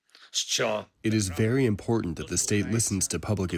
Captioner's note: through translator